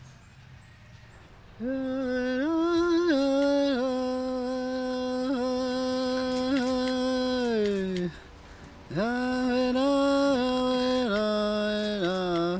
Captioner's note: chanting